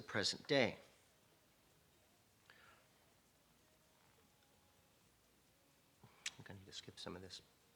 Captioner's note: <i>Brief pause</i>